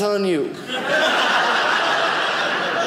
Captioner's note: audience laughing